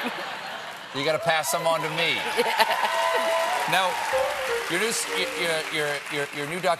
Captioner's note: cheers and applause